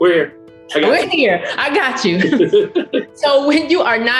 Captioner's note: laughs